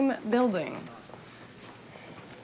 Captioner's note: footstep